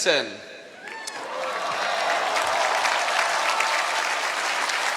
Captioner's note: cheering